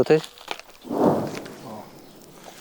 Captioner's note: explosion sound